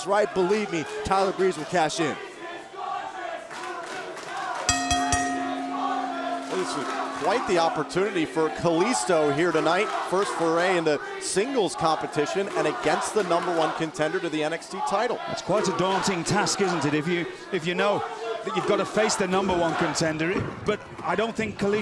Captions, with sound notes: TIME IS RIGHT, BELIEVE ME, TYLER BREEZE WILL CASH IN. [FANS CHANTING] [BELL RINGING] >> THIS IS QUITE THE OPPORTUNITY FOR KALISTO HERE TONIGHT. FIRST FORAY INTO SINGLES COMPETITION AND AGAINST THE NUMBER ONE CONTENDER TO THE NXT TITLE. >> THAT'S QUITE A DAUNTING TASK, ISN'T IT? IF YOU KNOW THAT YOU'VE GOT TO